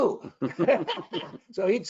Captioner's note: both laughing